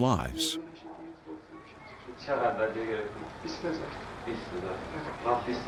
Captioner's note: speaking foreign language